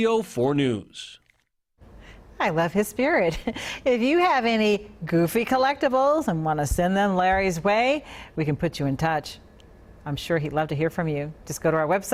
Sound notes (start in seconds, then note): 3.2 laughter